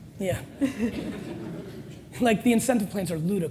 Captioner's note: audience laughs